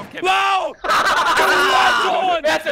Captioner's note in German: Hahahahahaha